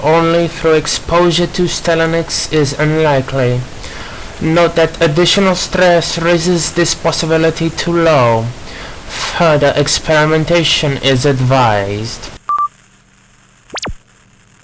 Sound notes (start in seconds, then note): 12.5 recording stops; 13.0 static